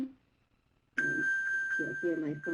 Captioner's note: high-pitched pinging